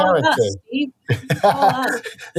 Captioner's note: laughs